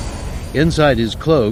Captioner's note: t-16 finally starts, engine sputtering